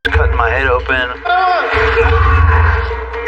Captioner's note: lvin groaning